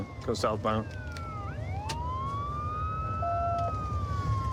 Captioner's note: sirens wailing